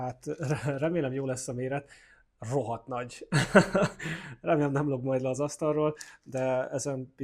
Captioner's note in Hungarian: nevetés